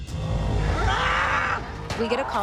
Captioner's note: screaming